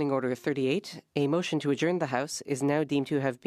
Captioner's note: speaking French